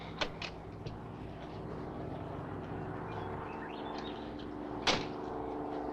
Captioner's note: plane engine rumbling